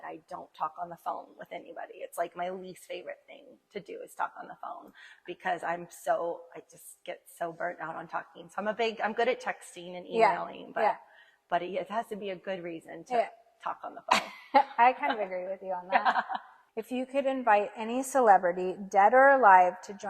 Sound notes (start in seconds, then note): 15.9 laughs